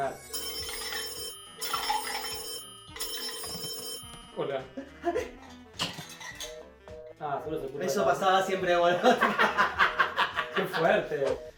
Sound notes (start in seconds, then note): 0.0 phone rings; 4.8 laughs and hangs up; 6.4 hang up tone; 9.0 laughs